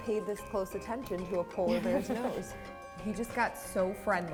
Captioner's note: laughs